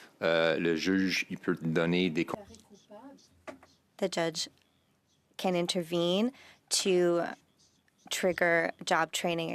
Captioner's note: speaking French